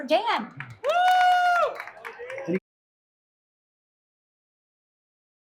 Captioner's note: audience applauding; audience cheering